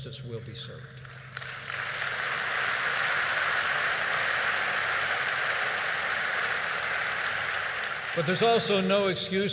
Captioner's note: applause